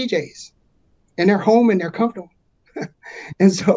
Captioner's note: chuckles